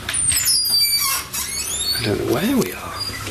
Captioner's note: door creaking